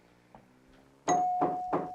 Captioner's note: doorbell dings